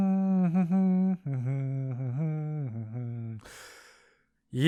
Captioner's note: hums cheerily; deeply breathes in